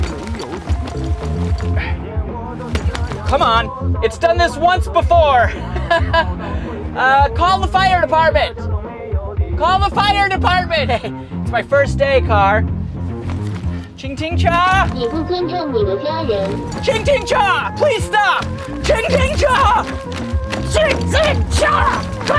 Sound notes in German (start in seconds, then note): 14.1 spricht auf Mandarin; 15.1 Auto spricht auf Mandarin; 16.9 spricht auf Mandarin; 18.9 spricht auf Mandarin